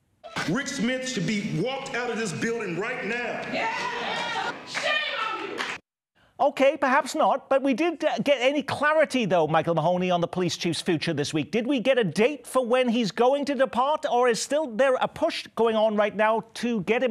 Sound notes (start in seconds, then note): 2.8 cheering